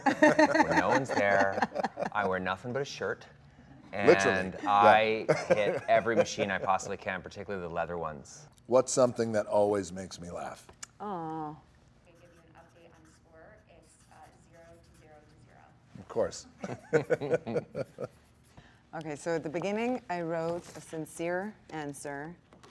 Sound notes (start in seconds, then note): 16.6 Ryan and Dwayne chuckle